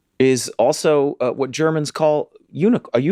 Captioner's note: none